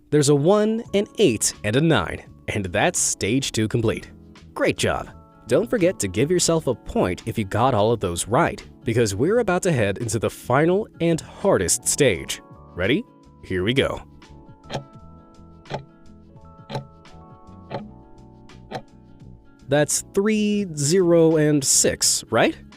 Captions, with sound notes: There's a one, an eight, and a nine. And that's stage two complete. Great job! Don't forget to give yourself a point if you got all of those right, because we're about to head into the final and hardest stage. Ready? Here we go. (timer ticking) That's three, zero, and six, right?